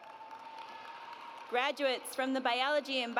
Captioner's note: audience cheers